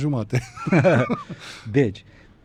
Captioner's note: laughter